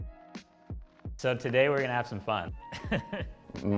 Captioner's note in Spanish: risas